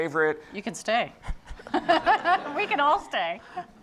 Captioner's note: laughs